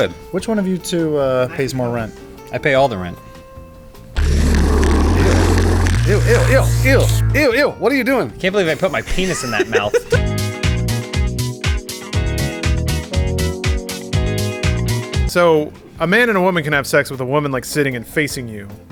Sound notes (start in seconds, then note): 4.1 growling & slurping